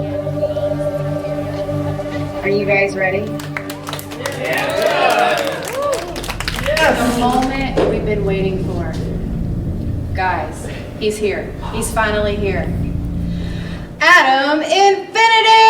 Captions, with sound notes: - Are you guys ready? (hands clapping) (crowd cheers) The moment we've been waiting for. Guys, he's here. He's finally here. Adam Infinity!